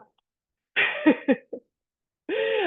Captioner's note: laughs